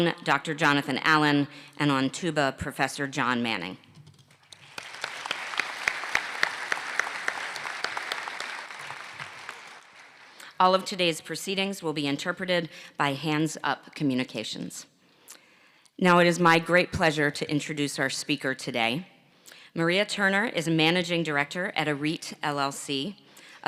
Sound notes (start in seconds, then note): 10.0 applause